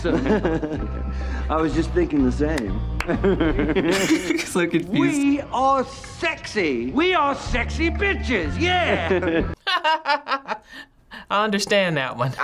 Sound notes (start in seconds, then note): 0.4 chuckles; 3.1 chuckle; 3.1 chuckles; 8.8 laughs